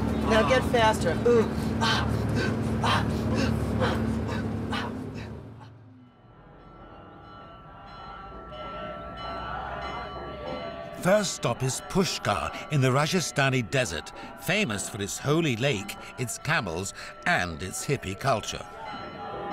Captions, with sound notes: Now get faster! Oooh, Aaah. Oooh, Aaah. (Sound - bells, chanting.) First stop is Pushkar in the Rajasthani desert famous for its holy lake, it’s camels and it’s hippy culture.